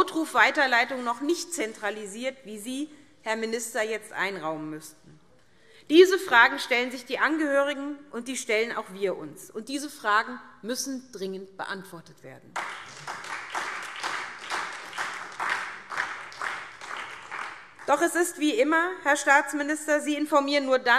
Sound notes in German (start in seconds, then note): 12.5 Beifall SPD und vereinzelt DIE LINKE